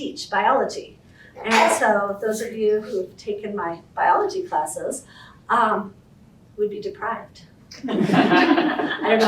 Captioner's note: laughter